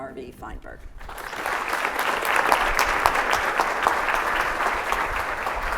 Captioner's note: audience applauding